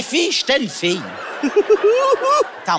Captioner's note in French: Rire